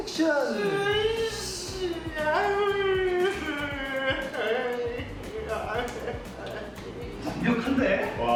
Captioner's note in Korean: 흐느끼는 소리